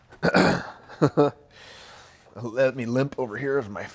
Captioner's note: chuckles